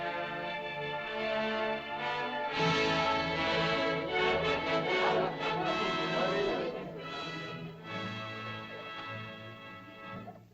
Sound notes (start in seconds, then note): 2.6 triumphant music; 4.9 indistinct caveman chatter; 4.9 triumphant music; 10.3 whimsical music